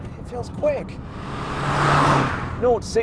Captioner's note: car roaring